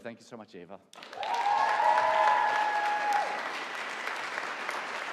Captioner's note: audience applauding